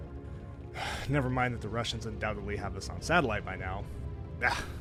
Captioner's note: sigh